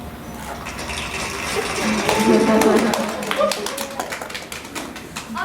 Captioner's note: applause